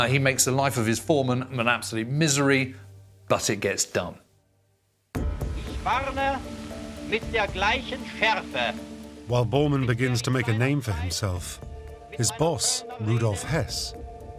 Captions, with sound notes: He makes the life of his foremen an absolute misery, but it gets done. [archive, German speech] While Bormann begins to make a name for himself, his boss, Rudolf Hess,